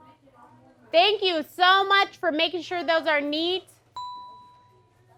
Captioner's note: ding